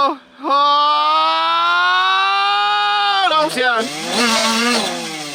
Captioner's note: slow motion rewinding